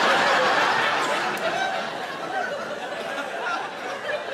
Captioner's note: audience laughing